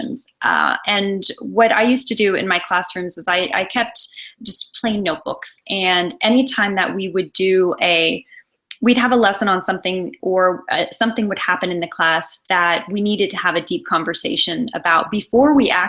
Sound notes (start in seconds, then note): none